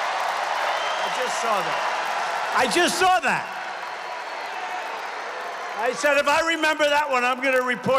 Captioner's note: applause